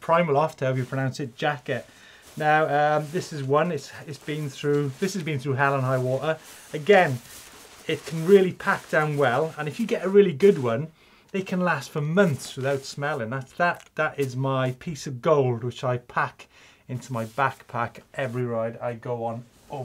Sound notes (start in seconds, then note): none